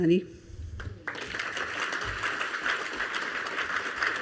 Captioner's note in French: Applaudissements